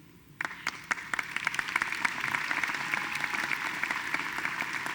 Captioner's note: audience applauding